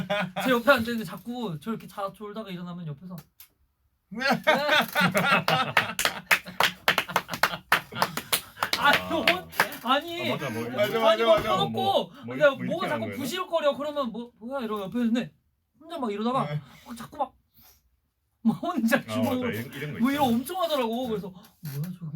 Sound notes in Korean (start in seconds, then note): 4.2 빵터짐